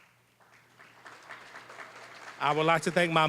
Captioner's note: applause